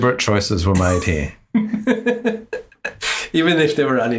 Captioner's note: laughs